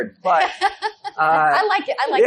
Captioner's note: laughs